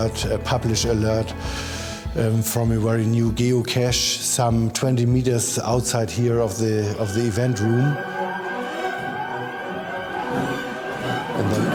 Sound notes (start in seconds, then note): 8.4 alarms sounding